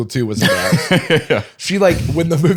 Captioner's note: laughs